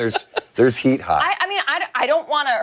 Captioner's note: laughter